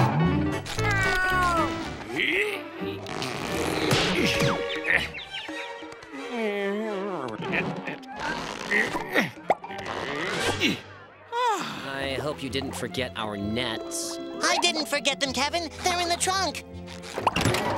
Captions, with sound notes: [meowing] [grunting] [grunting] I hope you didn't forget our nets. I didn't forget them, Kevin. They're in the trunk.